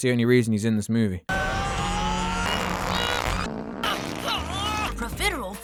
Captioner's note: repeated heavy flatulence